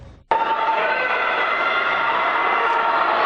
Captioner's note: cheering